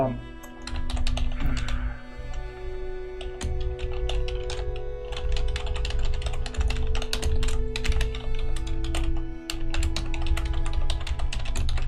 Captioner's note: more intense typing